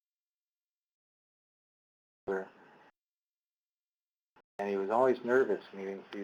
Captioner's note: audio cuts out